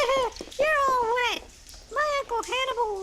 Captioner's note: riendo